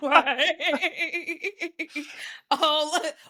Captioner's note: laughing